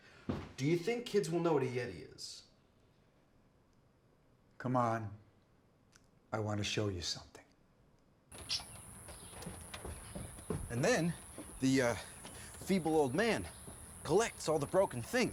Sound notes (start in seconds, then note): 8.3 birds chirping